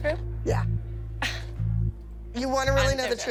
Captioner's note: scoffs